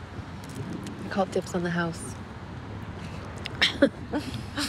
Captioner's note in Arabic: يضحك